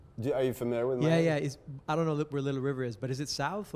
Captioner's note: voiceover